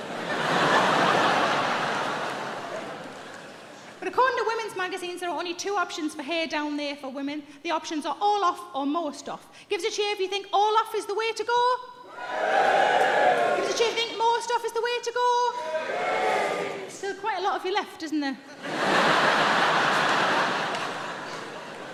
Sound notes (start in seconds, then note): 12.1 audience cheering; 18.5 audience laughing